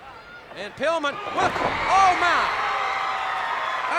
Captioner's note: blows thudding; crowd cheering